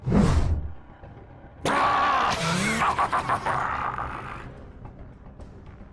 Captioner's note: Kha’Zix Laughs